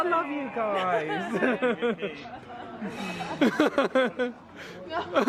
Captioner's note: chuckles